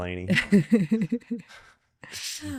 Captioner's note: laughing